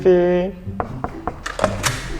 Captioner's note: knock knock knock